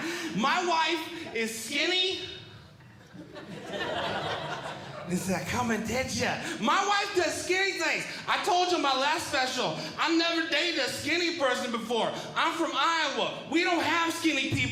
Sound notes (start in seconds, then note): 2.9 audience Laughing